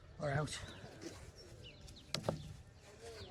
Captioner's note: birds chirping